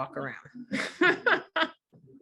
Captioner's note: the group laugh